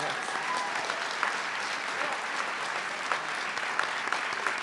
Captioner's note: audience clapping